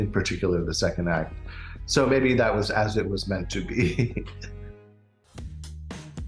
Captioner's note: chuckles